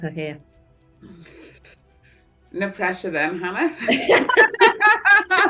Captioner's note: laughter